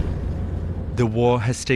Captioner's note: bomb exploding